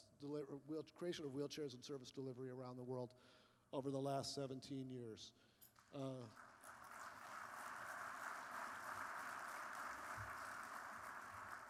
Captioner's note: applause